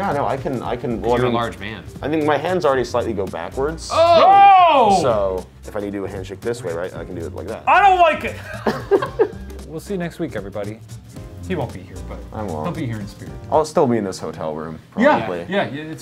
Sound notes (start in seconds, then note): 3.8 gasping; 8.3 laughing